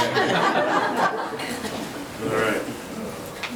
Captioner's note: laughing